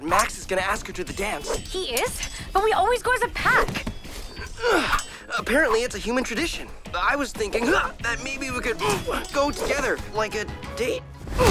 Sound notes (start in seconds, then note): 4.7 Brax grunts